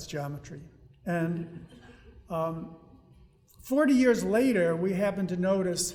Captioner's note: audience laughing